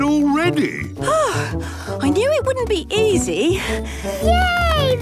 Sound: panting

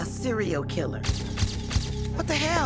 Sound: camera flash clicking

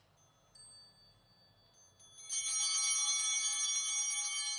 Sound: bell ringing

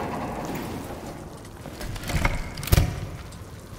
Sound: door creaking

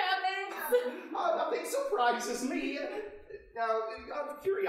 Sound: laughing

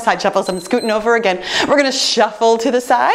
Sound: timer beeps

